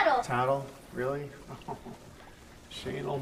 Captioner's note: laughs